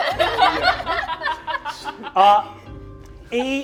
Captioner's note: all laughing